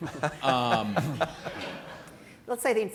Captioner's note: laughter